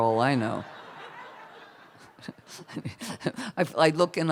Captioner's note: laughter